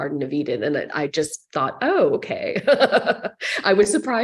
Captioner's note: laughing